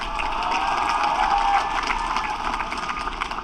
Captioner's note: applause